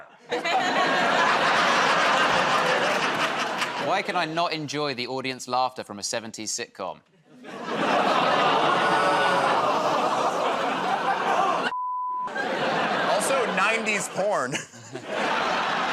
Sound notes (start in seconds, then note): 0.1 laughter; 9.8 laughter, groaning; 12.3 chuckles